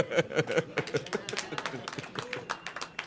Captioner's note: laughter; applause